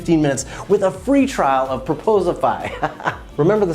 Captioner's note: laughs